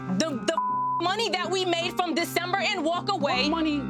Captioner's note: beep